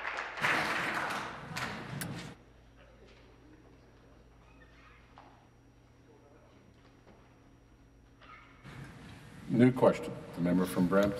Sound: applause

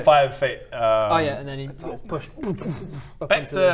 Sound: boo-boo-boom

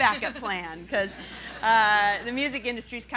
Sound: laughing

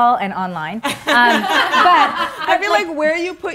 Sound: laughing

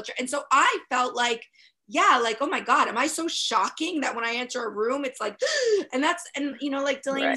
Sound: gasp

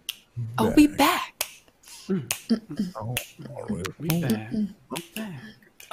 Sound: in unison: are we back?

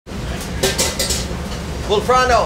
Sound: utensils clattering

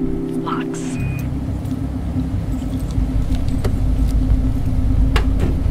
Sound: objects clicking

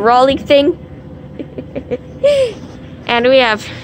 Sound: laughs

